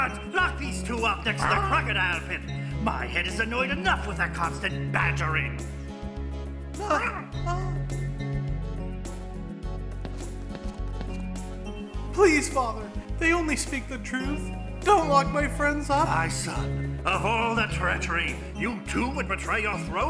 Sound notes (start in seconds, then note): 7.2 מלמול מבוהל